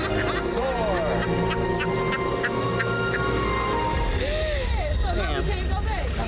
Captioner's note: woman laughing